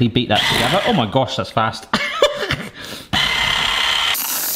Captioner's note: laughs; whisk whirring